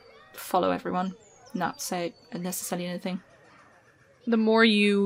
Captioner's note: children laughing distantly, crowd ambience